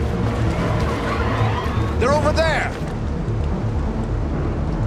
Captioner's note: police siren wails